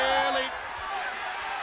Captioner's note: crowd chatter